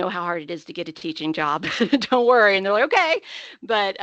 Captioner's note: laughing